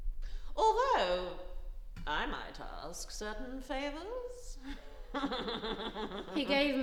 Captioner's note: laughing